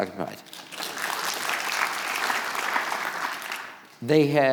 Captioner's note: audience clapping